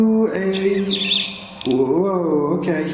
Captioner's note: metre beeping